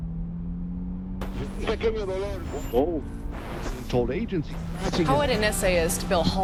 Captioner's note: car engine purring; radio crackling through stations